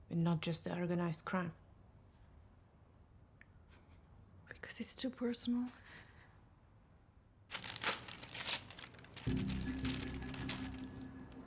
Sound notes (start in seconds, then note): 7.5 envelope ripping; 9.2 tense music